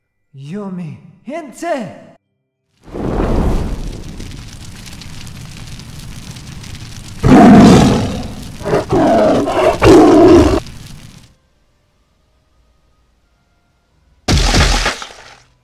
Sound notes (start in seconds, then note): 2.8 flames crackle; 7.2 tiger roar erupts